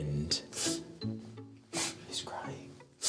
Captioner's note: sniffs